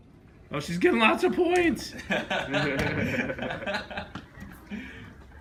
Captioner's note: laughing